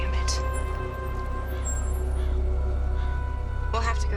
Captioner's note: bell